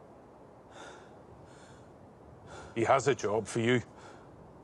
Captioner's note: Shelby breathing